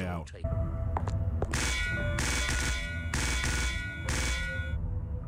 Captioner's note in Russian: довольно неправдоподобный лязг